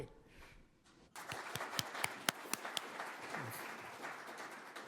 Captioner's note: applause